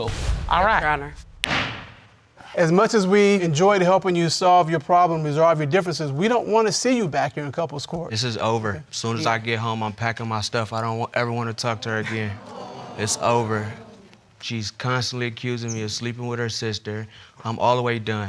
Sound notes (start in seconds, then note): 1.4 gavel bangs; 13.3 audience exclaim